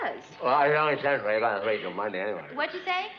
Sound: mumbles

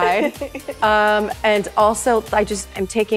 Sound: chuckling

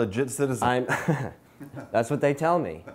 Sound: laughter

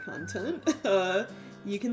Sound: chuckles

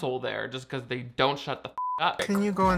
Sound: beeps

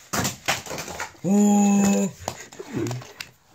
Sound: exclamation

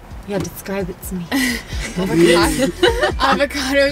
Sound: laughing

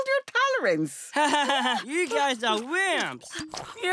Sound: laughing

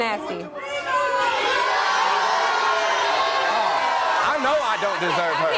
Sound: audience boos and shouts

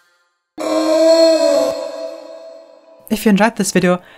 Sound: sound slowed

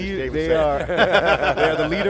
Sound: laughs

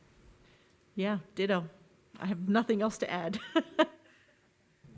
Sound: laughs

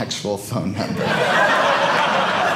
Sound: audience laughing

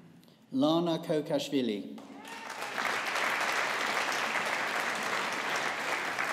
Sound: audience applauding

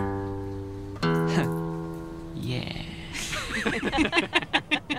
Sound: laugh; laughter

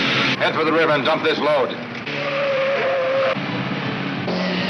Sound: tires squealing

